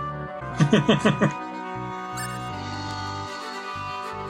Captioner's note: chuckles